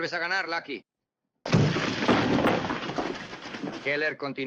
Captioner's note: blow, rattling